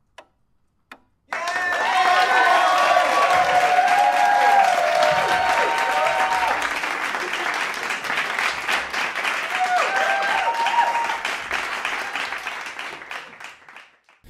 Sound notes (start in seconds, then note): 1.3 cheering and applauding